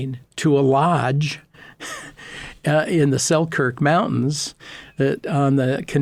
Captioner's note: laughing